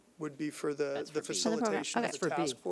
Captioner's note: overlapping chattering